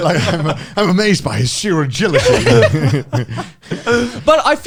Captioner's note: laughs